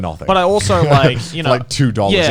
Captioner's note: Connor laughing